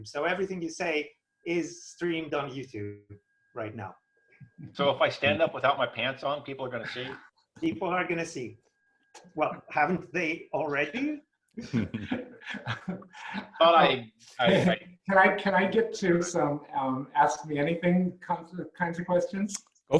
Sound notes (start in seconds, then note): 11.6 laughing loudly